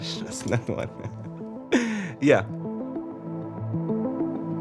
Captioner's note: laughs